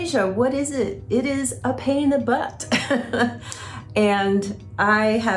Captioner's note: chuckling